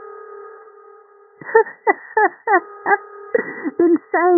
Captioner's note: laughter